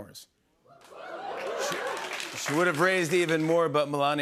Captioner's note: cheers and applause